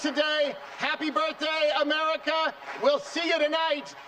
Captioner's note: applause